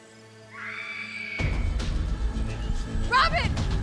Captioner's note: Robin screams; dramatic music